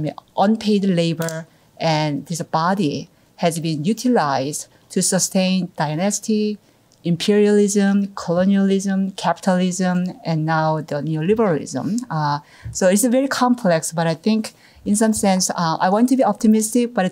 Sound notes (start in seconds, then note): none